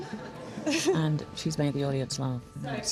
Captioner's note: laughter